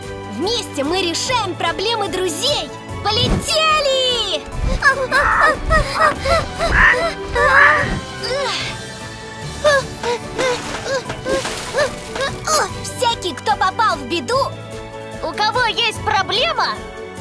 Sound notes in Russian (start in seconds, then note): 6.4 птица грозно ухает